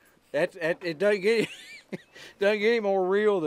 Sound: laughs

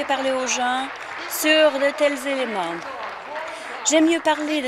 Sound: applause

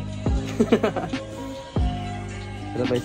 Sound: giggling

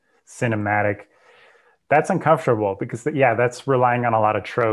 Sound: breath

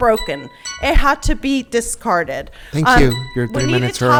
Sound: timer chimes

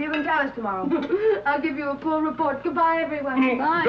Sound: chuckles

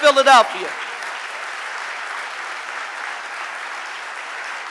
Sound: audience applauding

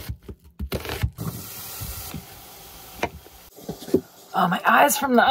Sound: knife chopping; food simmering

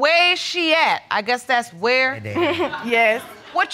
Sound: chuckles

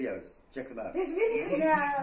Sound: laughter

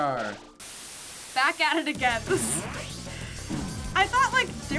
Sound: static

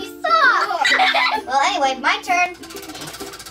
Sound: boys laughing

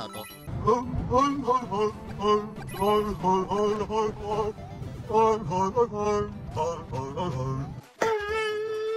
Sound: Luigi hums to himself

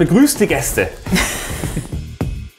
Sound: both laugh; casual music

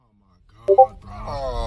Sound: discord notification 5

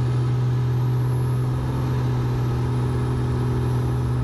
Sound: plane whirs

